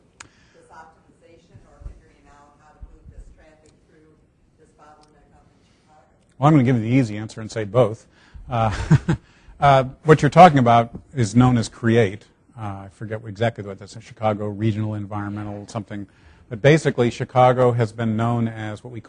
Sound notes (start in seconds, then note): 8.5 laughing